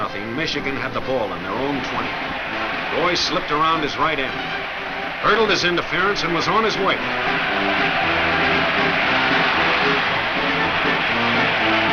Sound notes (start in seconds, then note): 7.7 crowd cheers